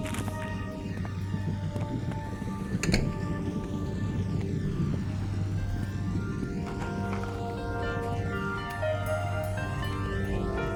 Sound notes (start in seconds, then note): 0.4 rustling; 2.8 door closing; 6.0 somber piano and string music